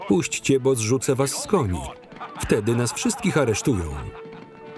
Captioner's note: laughing